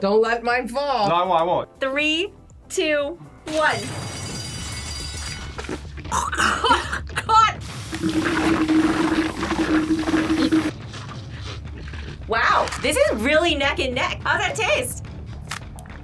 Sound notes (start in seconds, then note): 3.8 bell rings; 6.1 gags; 7.7 tea slurping